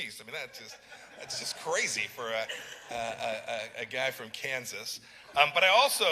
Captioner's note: laughter